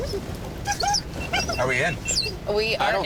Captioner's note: dog whimpering; RV beeping